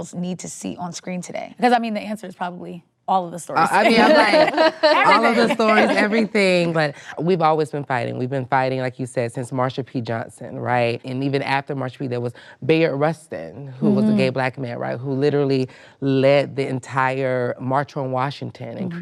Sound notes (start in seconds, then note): 3.8 laughter